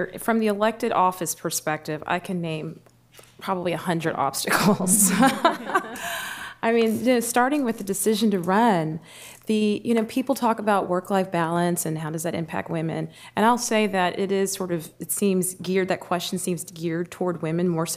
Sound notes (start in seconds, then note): 4.6 laughter